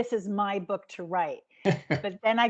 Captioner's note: giggling